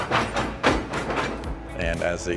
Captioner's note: train coupling; classic rock music